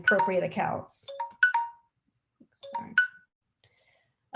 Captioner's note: phone ringing